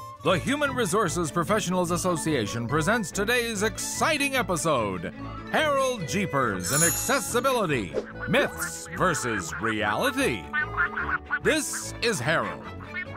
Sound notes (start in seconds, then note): 6.6 chimes; 10.8 nattering telephone voice